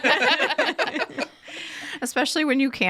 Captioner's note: people laughing